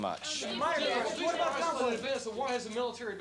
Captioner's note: reporters clamoring